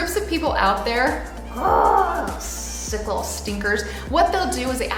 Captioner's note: grunts